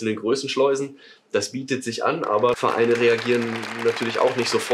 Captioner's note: applause